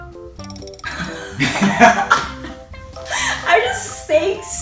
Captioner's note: laughs